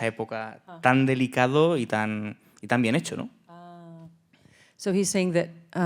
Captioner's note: speaking in Spanish